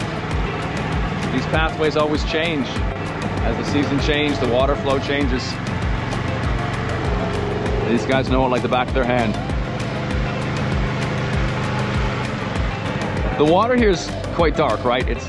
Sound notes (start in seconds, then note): none